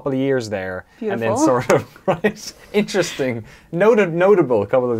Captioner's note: laughs